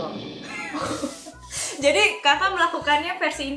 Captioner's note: laughing